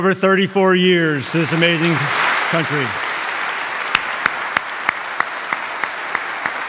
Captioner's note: audience applauding